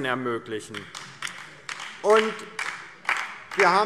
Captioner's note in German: Beifall DIE LINKE